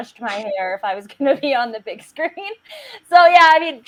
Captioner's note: laughs